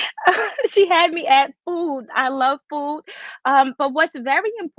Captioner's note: giggles